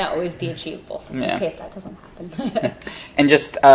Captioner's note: laughs